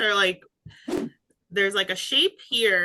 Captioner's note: graphic whooshing